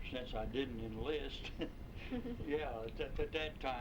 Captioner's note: chuckles